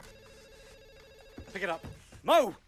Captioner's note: telephone ringing